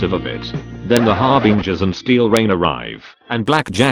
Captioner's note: record scratch